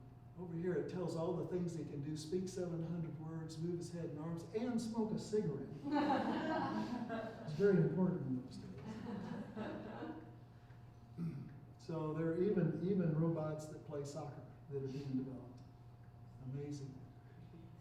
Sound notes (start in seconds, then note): 8.7 chuckling